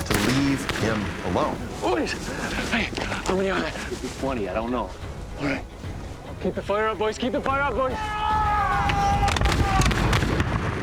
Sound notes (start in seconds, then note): 8.2 shouting, gunshots